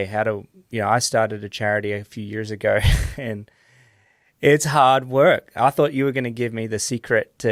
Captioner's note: chuckles